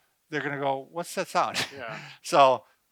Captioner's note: laughs